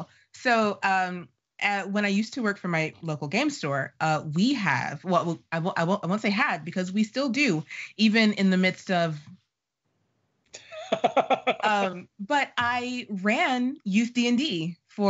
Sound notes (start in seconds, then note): 10.6 laughing